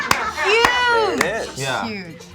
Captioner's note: clapping; people laughing